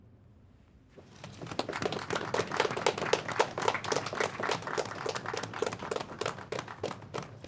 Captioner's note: applause